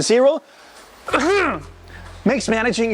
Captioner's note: coughing